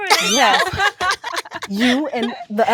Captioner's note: women laughing